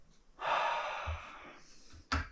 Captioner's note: sighs